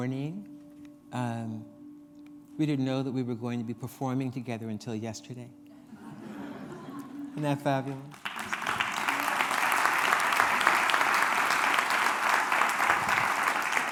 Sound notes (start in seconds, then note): 5.8 laughter; 7.7 applause